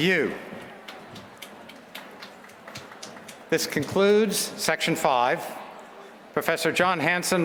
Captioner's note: applause